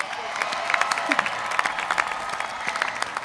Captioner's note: applause